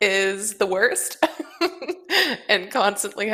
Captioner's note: laughs